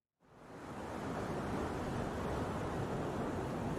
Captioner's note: water rippling